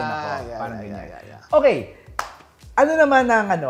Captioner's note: claps